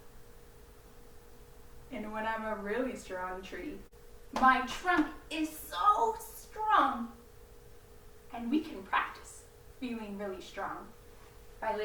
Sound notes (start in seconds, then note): 4.3 patting legs